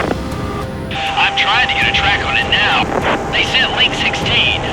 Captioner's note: voiceover